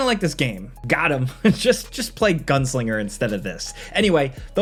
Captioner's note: chuckles